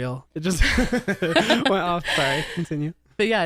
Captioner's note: laughs